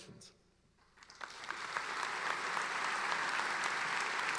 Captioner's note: applauding